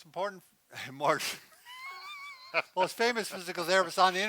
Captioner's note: laughing